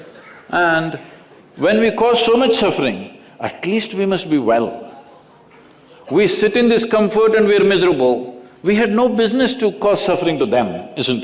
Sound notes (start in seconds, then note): none